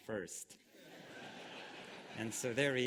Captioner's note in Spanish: Risas